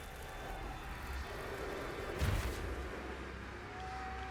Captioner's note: explosion